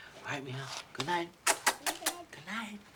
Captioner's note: kissing